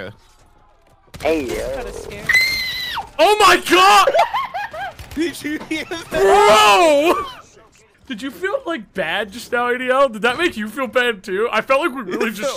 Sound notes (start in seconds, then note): 2.2 child screams; 4.4 child laughs